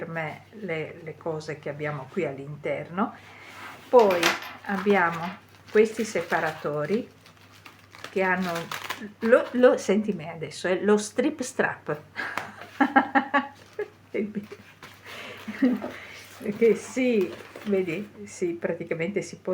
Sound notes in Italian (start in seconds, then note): 12.2 risate